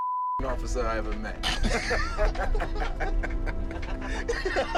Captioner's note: laughter